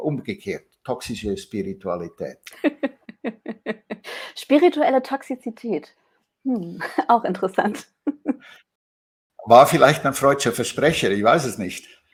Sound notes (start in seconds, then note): 2.4 laughs